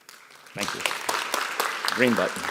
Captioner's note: audience applauds